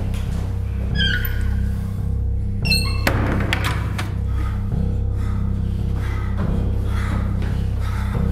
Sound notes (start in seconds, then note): 4.1 panting loudly